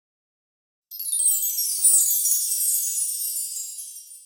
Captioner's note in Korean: 반짝이는 효과음